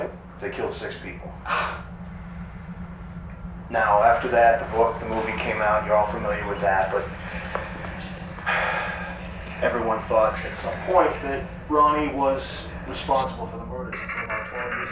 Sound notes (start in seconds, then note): 2.3 gasp